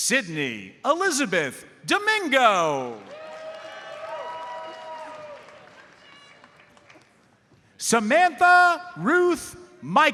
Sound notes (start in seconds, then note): 2.9 audience cheers and applauds